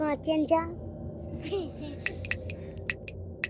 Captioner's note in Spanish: Risas